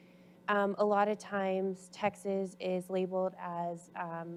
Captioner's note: none